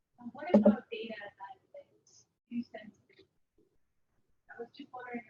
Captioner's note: speaking away from mike